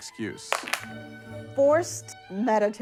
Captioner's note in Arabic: يسقط سماعات على الطاولة